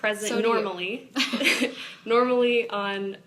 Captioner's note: both laugh